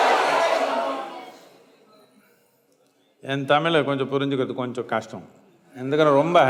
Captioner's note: laughter/Applause